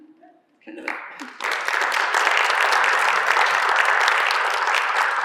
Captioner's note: applause